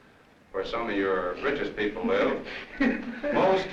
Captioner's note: laughter